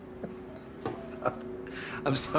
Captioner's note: laughs